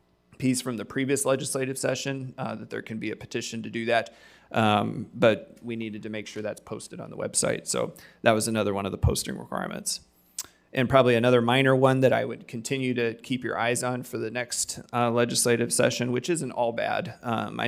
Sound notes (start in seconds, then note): none